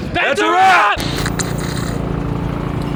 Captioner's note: television static; car engine roaring